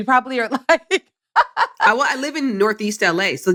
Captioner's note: laughs